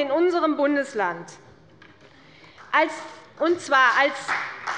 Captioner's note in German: Beifall bei der CDU und dem BÜNDNIS 90/DIE GRÜNEN